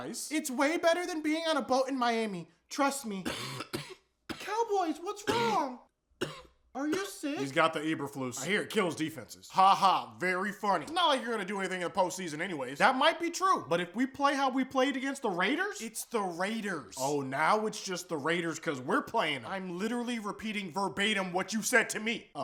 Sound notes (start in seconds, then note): 3.2 coughing; 5.2 coughing continues